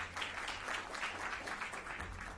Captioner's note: applause